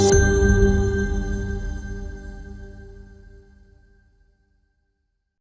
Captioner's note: soft beaming; bell rings; bells chiming; soft twinkling